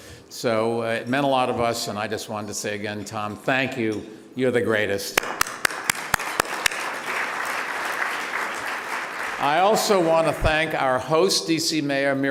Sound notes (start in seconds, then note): 5.2 clapping